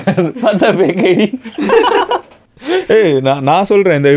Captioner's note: group laughs